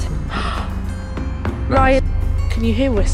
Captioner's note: gasp